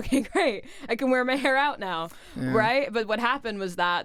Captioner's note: chuckles